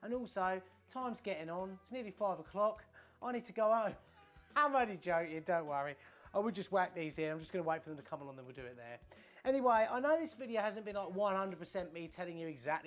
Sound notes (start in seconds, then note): 4.4 laughs